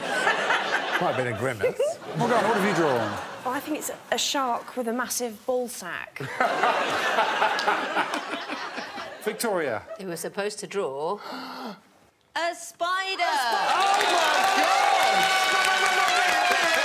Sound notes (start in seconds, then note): 8.7 all laughing